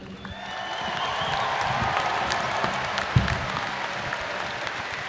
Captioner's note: audience applauding